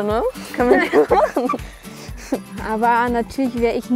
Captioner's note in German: lacht